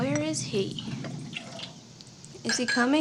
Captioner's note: thunder rumbling